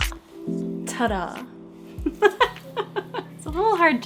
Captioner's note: laughs